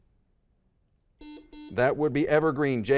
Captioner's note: buzzer dings